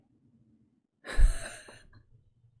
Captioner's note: laughs